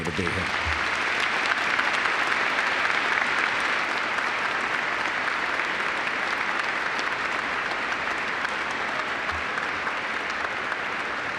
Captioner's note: applause